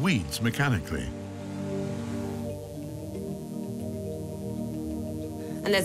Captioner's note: laser buzzing